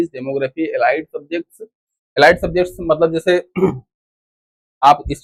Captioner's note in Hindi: गला साफ़ करने की आवाज़